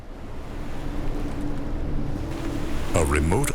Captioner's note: waves crashing